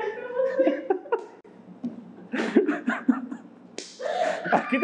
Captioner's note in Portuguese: risos